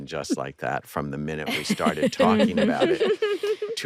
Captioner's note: all chuckling